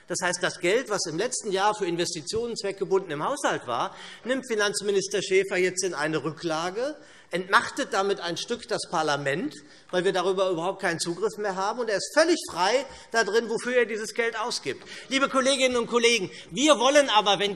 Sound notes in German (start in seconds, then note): none